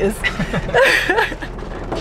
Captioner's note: laughter